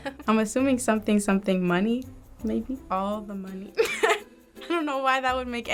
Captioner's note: laughs